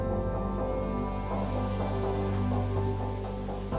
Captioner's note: sound of shower